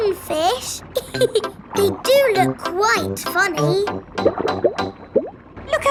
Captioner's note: laughs